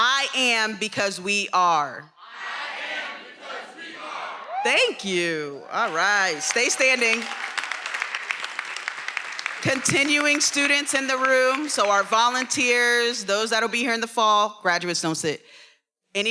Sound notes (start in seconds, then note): 7.4 everyone applauding